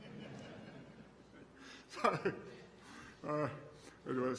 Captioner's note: laughter